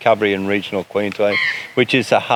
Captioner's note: eagle screaming